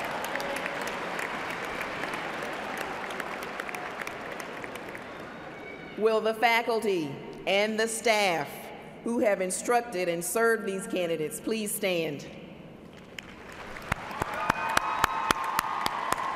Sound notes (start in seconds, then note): 4.7 cheers and applause